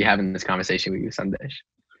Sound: chuckles

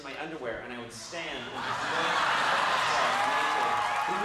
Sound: audience laughs

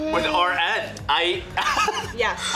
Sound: laughing

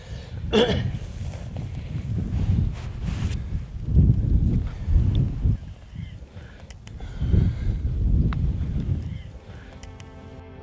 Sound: clears throat

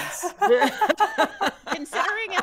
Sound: players laughing

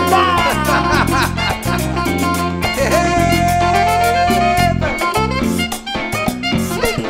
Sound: laugh

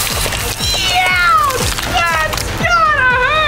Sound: machine whirring; screams

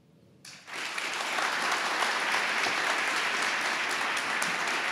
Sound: audience applauding

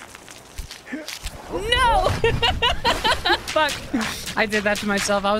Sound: laughter

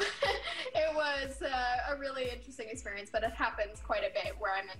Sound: chuckles

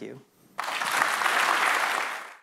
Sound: clapping

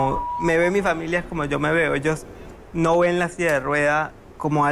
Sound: speaking in foreign language

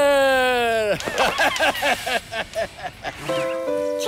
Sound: laughing

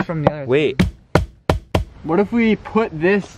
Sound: banging

